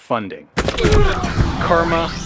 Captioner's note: punching sound